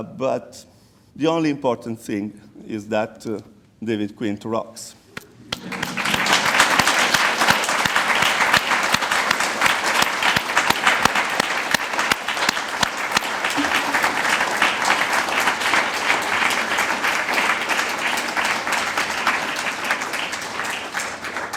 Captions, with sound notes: But the only important thing is that David Quint rocks. (audience applauds)